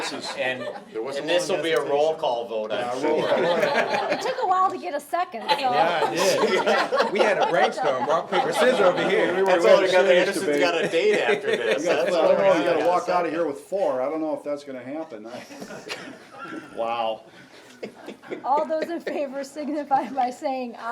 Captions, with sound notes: for the-- - And this will be a roll call though-- (members laughing) - It took a while to get a second so. - Yeah, yes. (members laughing) We had brainstorm rock, paper, scissor over here. - We got a date after this. (group chattering) - Could have walked outta here with four, I don't know if that's gonna happen. (members laughing) Wow! - All those in favor signify by saying, aye.